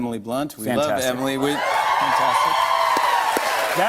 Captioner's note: wild Applause